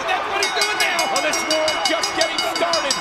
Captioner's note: bell ringing